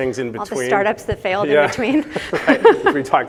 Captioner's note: laughs